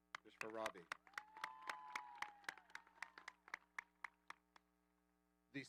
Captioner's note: audience applauding